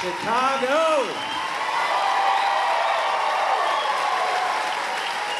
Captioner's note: cheering